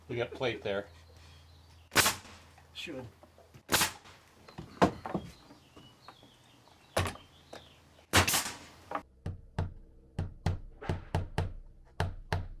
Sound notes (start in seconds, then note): 8.2 nail gun clicking; 10.2 hammer thudding